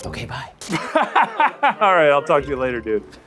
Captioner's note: laughs